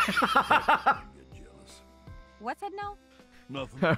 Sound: laughs

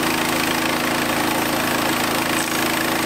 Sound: engine Running

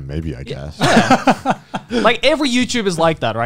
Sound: laughing

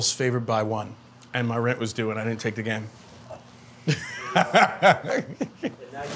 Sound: chuckles

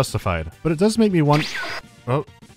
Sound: woosh

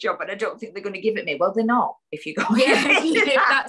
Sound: laughs

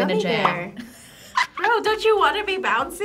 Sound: React laughs

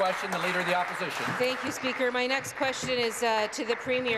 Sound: applause

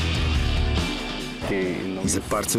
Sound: speaking lithuanian

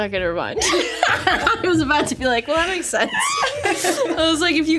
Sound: laughs

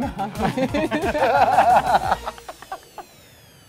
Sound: both laugh

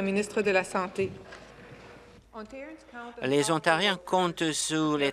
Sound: speaking French

